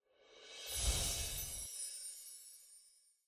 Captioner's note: ethereal twinkling